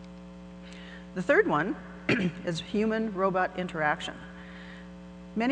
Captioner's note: clears throat